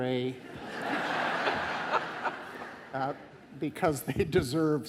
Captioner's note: audience laughing